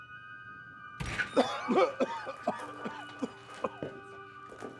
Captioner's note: Darlus coughing